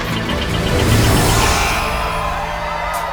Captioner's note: crowd cheers; buzzer blares